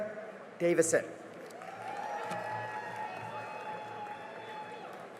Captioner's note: cheering and applause